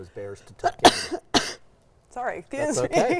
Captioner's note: sneezing